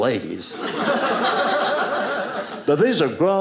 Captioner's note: audience laughing